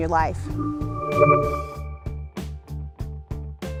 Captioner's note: sonic whooshing